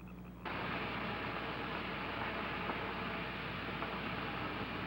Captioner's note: electricity crackling